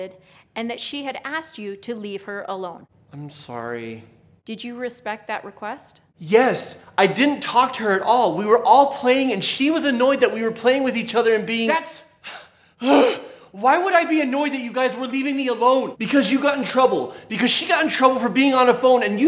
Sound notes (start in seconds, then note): 12.2 huffs